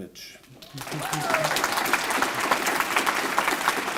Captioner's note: applause